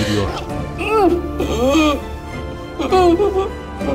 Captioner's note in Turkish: Öğürme sesi